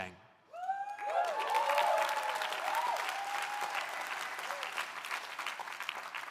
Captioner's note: audience cheering; audience applauding